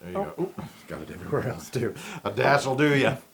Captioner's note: laugh